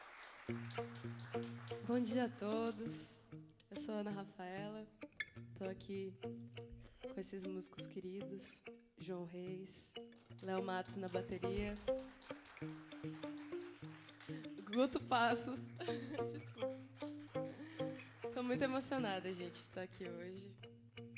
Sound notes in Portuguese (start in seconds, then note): 15.6 risos